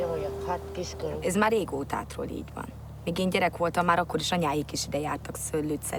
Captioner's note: speaking in foreign language